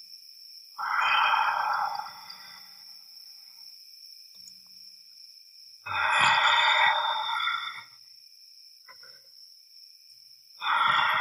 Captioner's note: growling